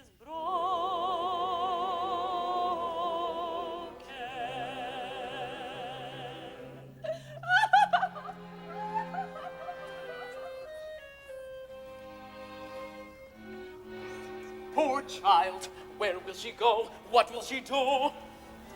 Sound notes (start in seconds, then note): 7.0 Lisa weeps